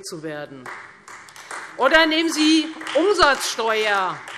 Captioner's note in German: Beifall Freie Demokraten